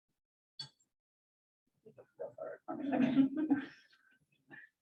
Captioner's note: laugh